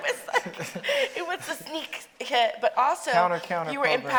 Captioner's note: Mireille laughing